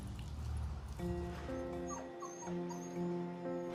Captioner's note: puppy whining